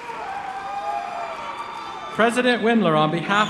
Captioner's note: applause